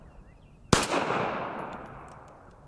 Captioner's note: pistol fires